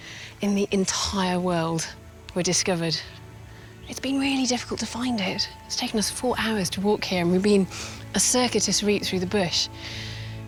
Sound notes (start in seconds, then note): none